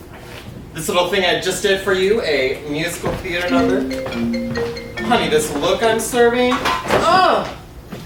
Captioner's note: phone rings